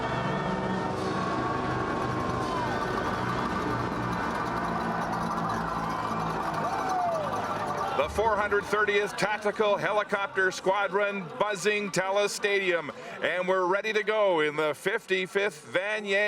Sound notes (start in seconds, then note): 0.0 cheering and Applause; 2.1 crowd Noise